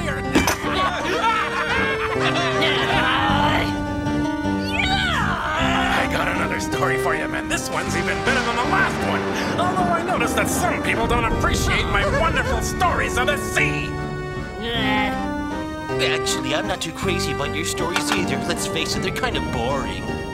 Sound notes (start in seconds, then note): 0.4 men laugh; 2.7 witch grunts